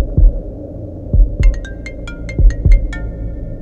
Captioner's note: Phone ringing